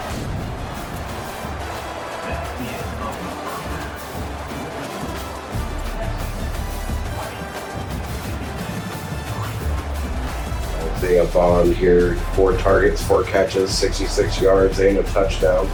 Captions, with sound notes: [Crowd Noises] They have fallen here for targets for catches 66 yards in a touchdown.